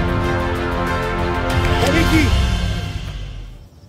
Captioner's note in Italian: Applauso